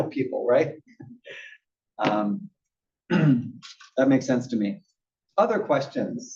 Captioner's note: cough